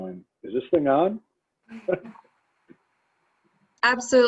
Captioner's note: laughter